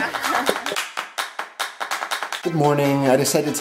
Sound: laughter; rhythmic clapping

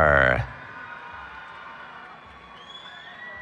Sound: cheering

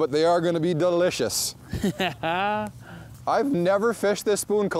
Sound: laughs

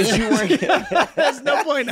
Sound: all laughing

